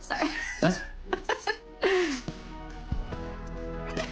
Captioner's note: laughing